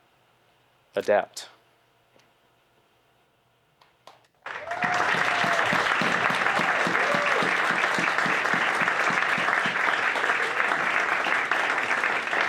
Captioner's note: applause